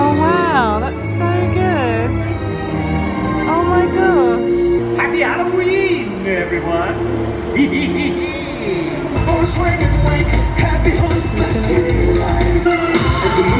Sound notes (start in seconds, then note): 1.9 soaring upbeat music; 4.9 soaring upbeat music; 7.0 laughing; 7.4 creepy upbeat music